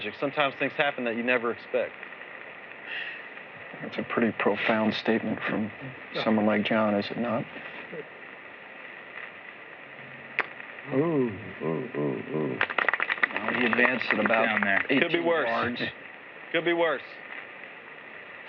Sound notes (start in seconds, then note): 12.6 applause